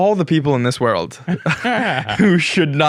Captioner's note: both laugh